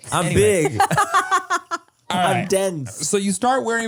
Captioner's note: laughs